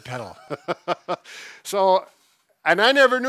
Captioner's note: laughter